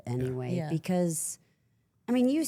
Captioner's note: none